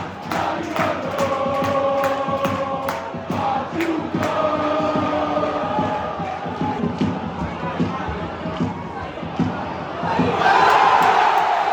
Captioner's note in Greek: Επευφημίες